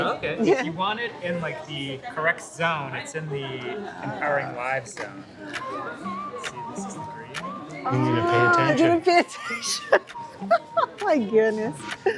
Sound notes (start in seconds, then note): 9.2 laughiing